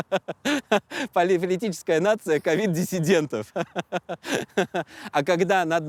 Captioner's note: laughs